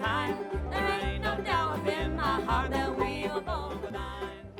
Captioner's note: crowd cheering